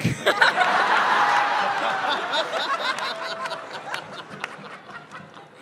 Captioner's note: lots of laughter; definitely laughing